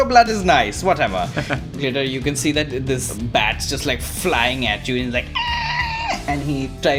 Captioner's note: screech